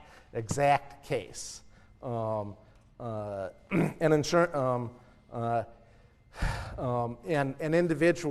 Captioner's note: cough